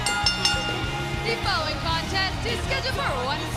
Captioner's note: bell ringing